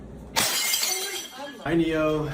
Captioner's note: glass shattering